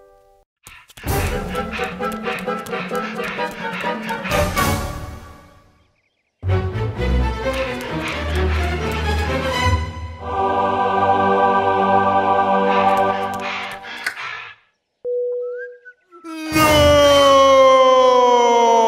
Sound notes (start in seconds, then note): 1.2 panting; 10.0 angelic choir; 12.7 panting